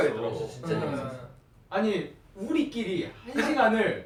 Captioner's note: in japanese